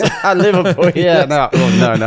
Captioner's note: laughs